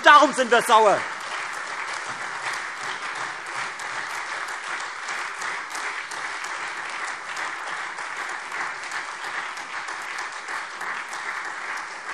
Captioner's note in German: Beifall Freie Demokraten, SPD und AfD